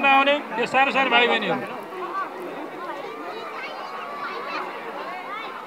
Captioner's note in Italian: In Nepali